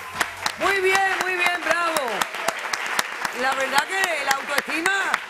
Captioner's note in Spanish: aplausos